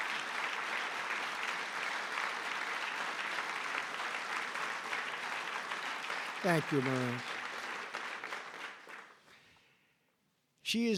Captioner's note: applause